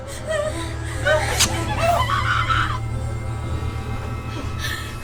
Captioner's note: screaming